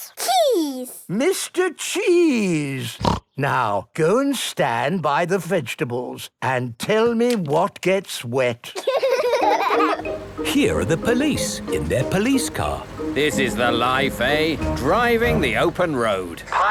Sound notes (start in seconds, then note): 3.0 snorting; 8.7 kids giggling